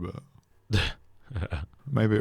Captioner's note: sniggers